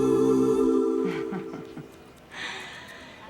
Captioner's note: chuckles